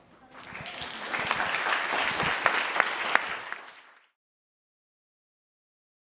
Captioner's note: applause